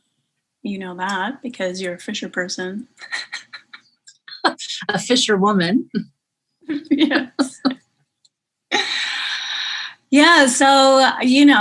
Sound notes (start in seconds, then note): 2.7 laughing; 6.7 laughing